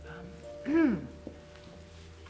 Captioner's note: clears throat